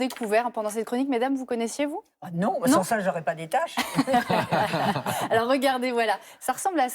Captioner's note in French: rires